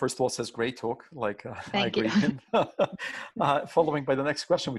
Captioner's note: voice muffled